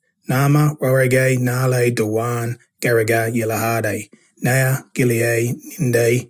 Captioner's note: narrator speaking in Kamilaroi language